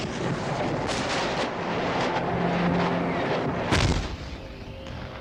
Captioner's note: missiles whooshing; missiles exploding